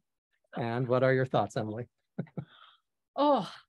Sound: chuckles

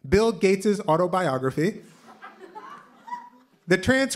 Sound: laughter

